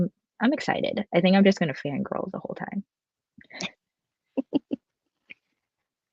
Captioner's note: laughs